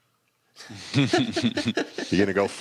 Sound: laughter

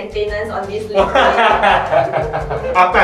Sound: nervous laughter

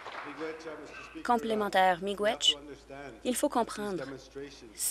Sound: applause

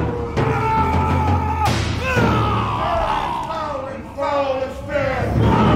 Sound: screaming, swords ping

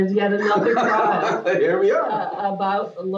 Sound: laughter

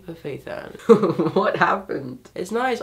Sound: laughs

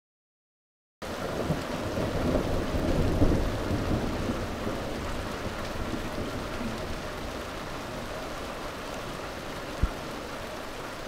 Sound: sound of thunder

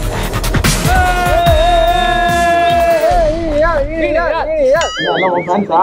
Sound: crowd cheering

